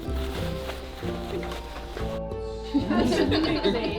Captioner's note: fabric scraping